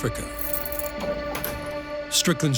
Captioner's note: keys jangling; door clicks open